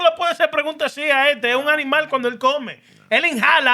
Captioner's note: speaking Spanish